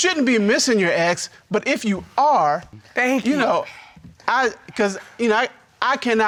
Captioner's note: stutters